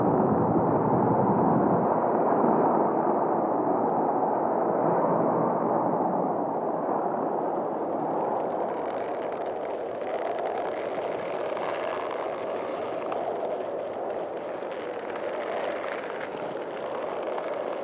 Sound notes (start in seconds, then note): 9.4 plant stems creaking